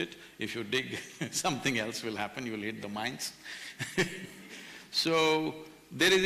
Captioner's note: laughs